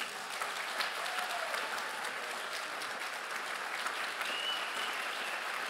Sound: crowd cheers and applauds

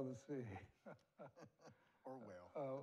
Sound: both laugh

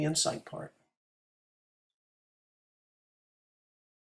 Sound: silence

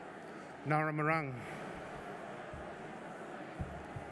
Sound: non-english speech

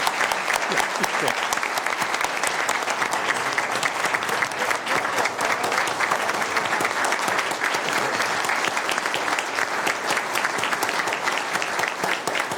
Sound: applause

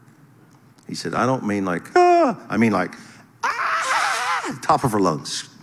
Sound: person screaming

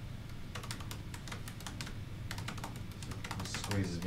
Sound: keyboard clattering

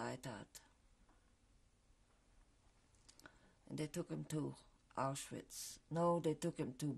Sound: pauses for 3 seconds

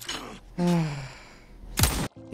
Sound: sigh

